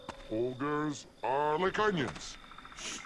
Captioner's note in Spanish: Sonido del juego